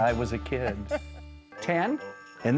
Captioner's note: laughs